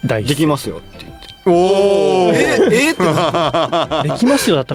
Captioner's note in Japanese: 笑い